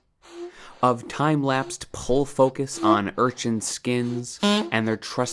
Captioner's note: beep